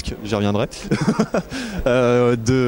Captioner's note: laughs